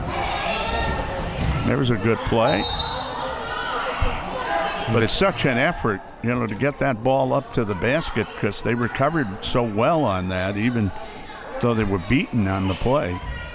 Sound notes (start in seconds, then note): 2.4 whistle